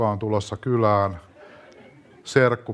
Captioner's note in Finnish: yleisö nauraa